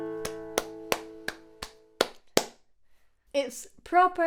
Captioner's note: woman clapping